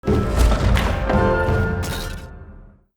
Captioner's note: thuds accompanied by music